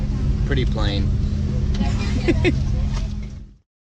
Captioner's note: laughs